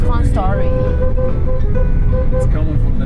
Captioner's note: honking noises